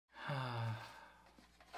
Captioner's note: happy sigh